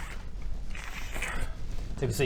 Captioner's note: krrcccchh; krrcchhhcch